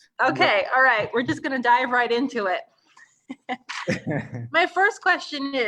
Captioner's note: both laughing